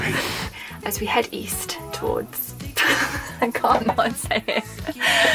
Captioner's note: laughing